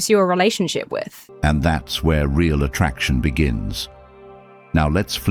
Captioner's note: AI Voice